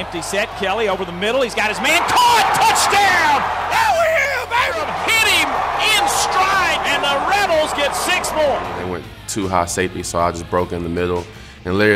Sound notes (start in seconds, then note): 3.2 crowd cheering